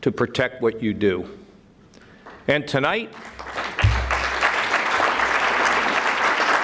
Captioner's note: audience clapping